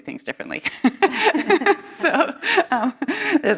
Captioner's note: laughter